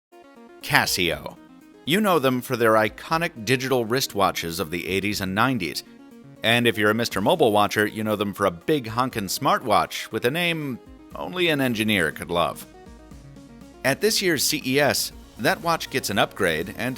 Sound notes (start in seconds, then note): 0.7 voiceover